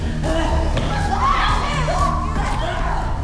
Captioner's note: both moaning